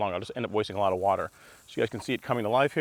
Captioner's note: water splashing